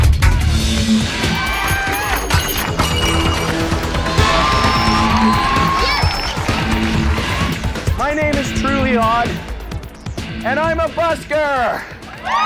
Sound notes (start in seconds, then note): 0.7 thrilling music; 4.1 audience cheering